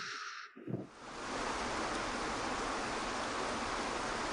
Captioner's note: water splashing